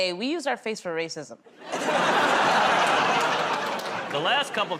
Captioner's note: laughter